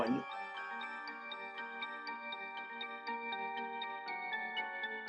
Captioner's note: gently chiming bells